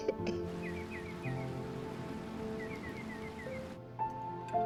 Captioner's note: birds chirping